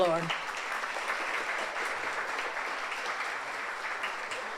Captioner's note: audience applauds